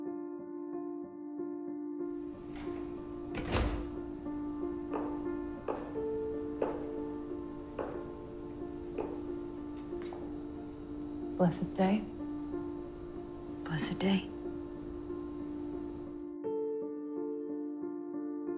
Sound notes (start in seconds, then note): 2.6 the door opens and closes; 4.8 footsteps reverberate off of the floor